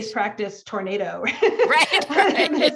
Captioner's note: laughs